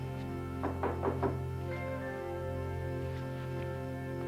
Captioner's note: knocking